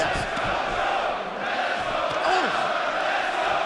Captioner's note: fans chanting